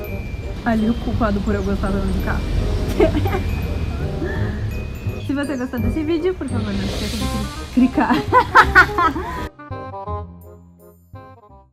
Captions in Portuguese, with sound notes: Ali o culpado por eu gostar tanto de carro (risos) Se você gostou desse vídeo, por favor não esqueça de cri- Cricar! (risos)